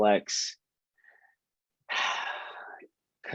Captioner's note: sighs